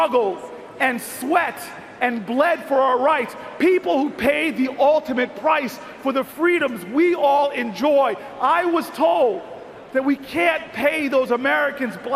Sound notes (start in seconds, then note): none